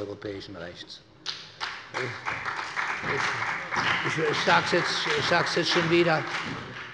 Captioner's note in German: Allgemeiner Beifall